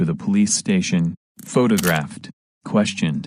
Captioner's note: camera click